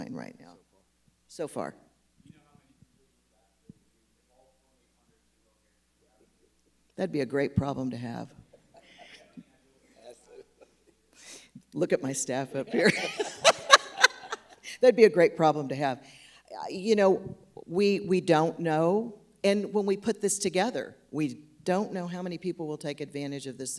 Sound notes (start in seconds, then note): 12.6 laughs